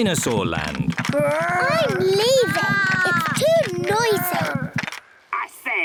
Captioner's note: both roar